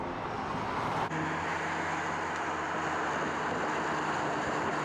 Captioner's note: car engine revving